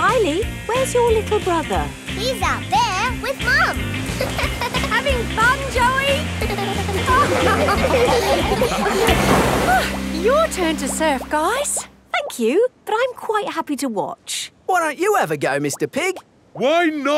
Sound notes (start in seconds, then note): 5.8 laughing; 6.1 giggles